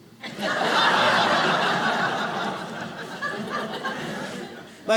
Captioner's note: audience laughs